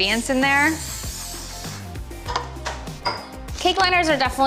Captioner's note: bottle spraying